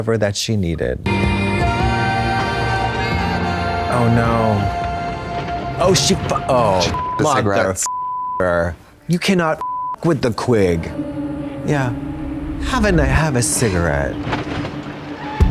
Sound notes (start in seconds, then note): 1.0 triumphant music; 6.9 beep; 10.0 beep; 10.4 strange music